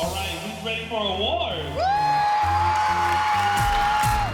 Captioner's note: whooping